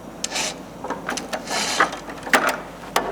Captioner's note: creaking noises